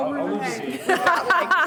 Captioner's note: laughs